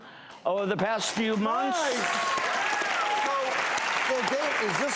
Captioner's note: audience applauding